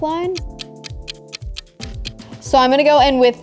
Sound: clock ticking

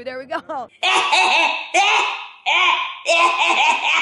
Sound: laughs

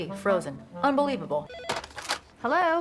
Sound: telephone rings

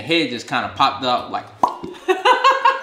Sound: popping sound; laughing

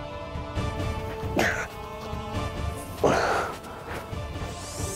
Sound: Chief grunts

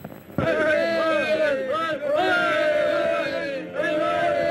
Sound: soldiers cheering

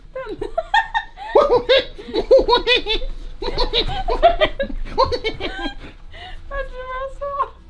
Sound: gorilla sound

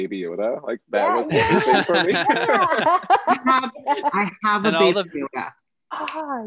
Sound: laughter

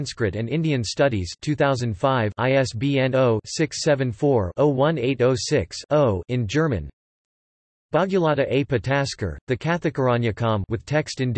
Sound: in German

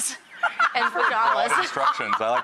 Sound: laughs

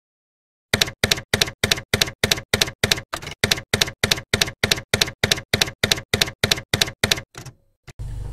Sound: typewriter keys clacking

